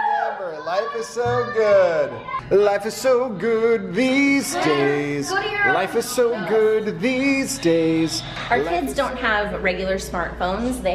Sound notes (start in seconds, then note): 4.2 kids talking excitedly